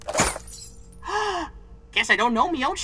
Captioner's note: gasp!